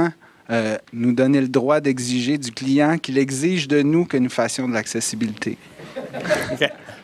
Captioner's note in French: Rires